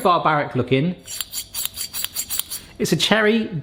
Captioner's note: metal sliding